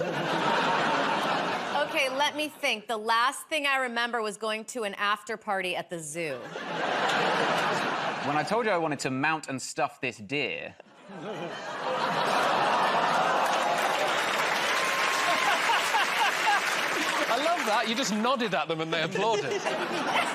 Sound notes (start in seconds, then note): 0.0 laughter; 12.9 audience groans; 14.5 cheers and applause